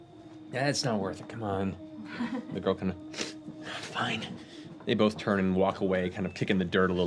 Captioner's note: sniffs